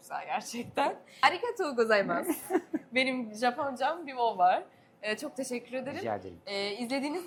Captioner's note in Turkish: kahkaha